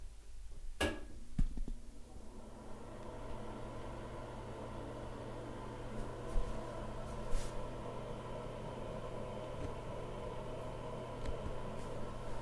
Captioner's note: click; exhaust Fan Running